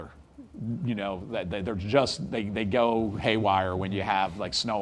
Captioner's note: attendee laughs